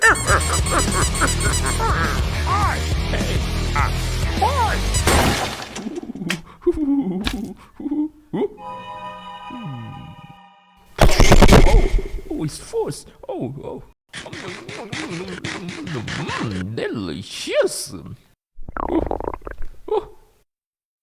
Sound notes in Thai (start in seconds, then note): 0.0 เสียงตุ๊กตา; 5.8 หัวเราะ; 18.6 กร้วกกก ท้องร้อง